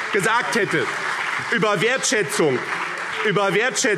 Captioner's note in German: Vereinzelter Beifall BÜNDNIS 90/DIE GRÜNEN - Zurufe